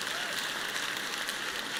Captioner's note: applause